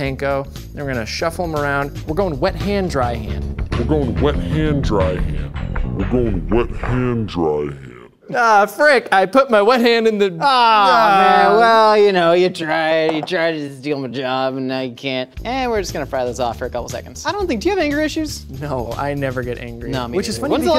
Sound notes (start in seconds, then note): 3.4 audio in slow motion; 4.0 audio in slower motion